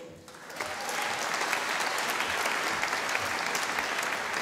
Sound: audience applauding

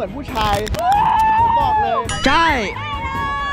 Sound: yells

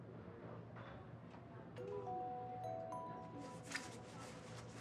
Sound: phone ringing

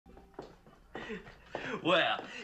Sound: footsteps

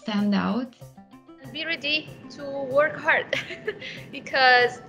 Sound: laughs

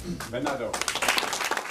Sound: applaud

